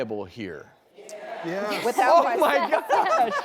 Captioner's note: crowd; laughing